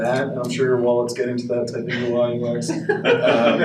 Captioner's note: audience laughs